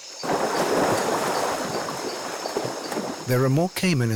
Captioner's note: water splashing